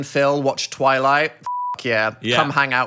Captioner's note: beeps